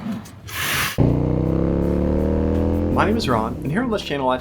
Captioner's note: motorcycle engine